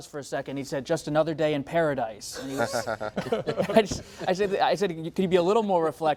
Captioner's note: laughter